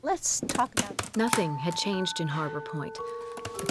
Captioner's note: typing